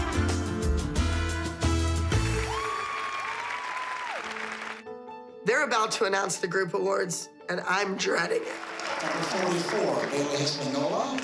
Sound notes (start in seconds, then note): 2.2 audience cheering